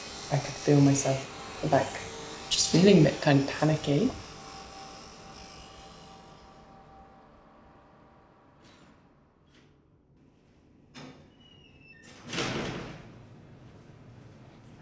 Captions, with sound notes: I can feel myself, like, just feeling a bit kinda panicky. [Buzzing fades out] [Door opens and slams]